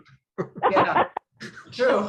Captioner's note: everyone laughing